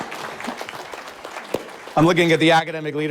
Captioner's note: audience applauding